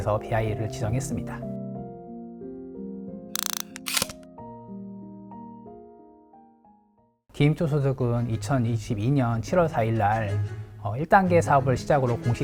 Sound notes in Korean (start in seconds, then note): 3.4 다이얼 소리